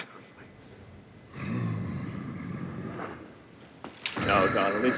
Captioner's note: Donald growls